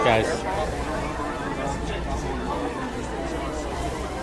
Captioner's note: crowd chattering